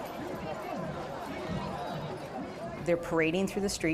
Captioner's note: crowd chattering